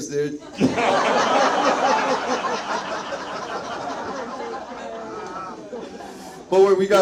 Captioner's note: audience laughs; Zach laughs